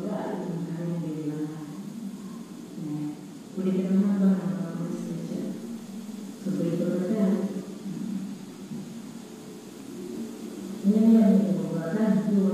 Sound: speaking foreign language

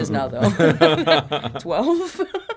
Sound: laughing

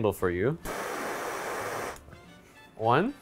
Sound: torch blowing

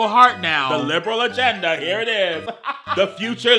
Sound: laughs

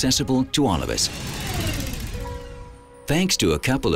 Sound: whirring

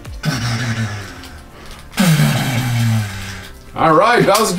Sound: mumbling; making dramatic zoom noise

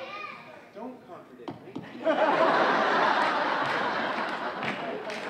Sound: audience laughing

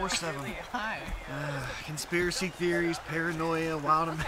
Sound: laughs; sigh

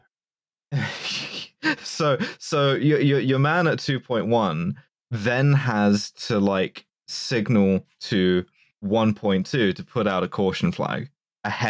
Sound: laughs

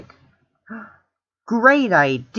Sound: gasped

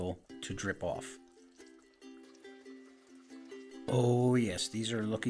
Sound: gentle music; rustling gently

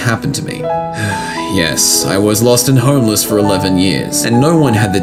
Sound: sigh

